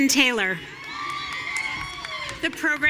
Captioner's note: audience cheering